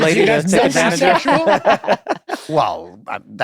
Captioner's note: laughter